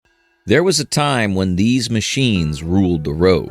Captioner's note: in a deep, calm, dramatic tone